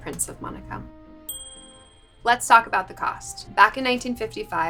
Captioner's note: bell dings